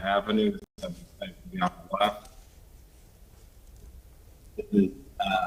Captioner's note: ~distortion~